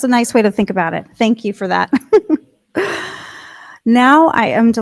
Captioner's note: laughs